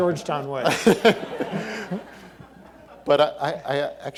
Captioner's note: all laughing